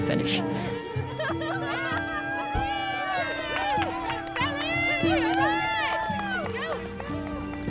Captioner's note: cheering; slow melancholic music continues